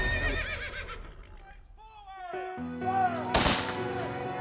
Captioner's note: horse neighing; soldiers yelling; piano music